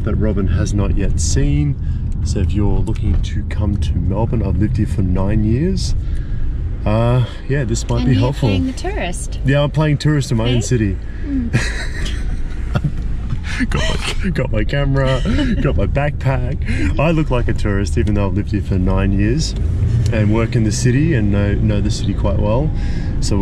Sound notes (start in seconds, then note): 11.4 laughing